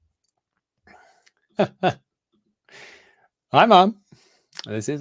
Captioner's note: laughing